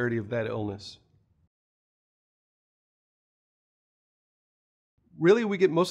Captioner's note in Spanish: Sin audio